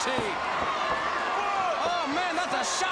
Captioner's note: crowd cheering